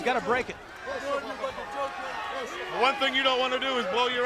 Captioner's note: crowd chatter